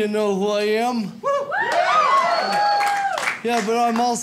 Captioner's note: audience cheers